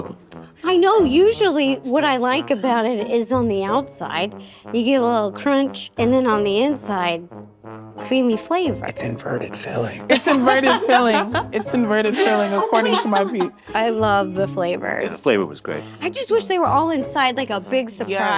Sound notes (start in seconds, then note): 8.7 whispers